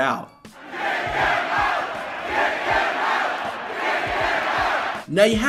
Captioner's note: crowd chanting "Get him out"